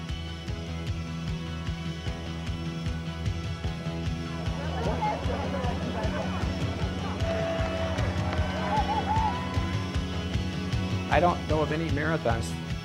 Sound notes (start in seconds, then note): 4.0 people chattering; 7.6 crowd cheering